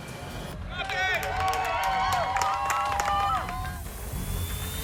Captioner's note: crowd cheering